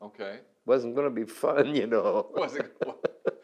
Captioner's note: laughs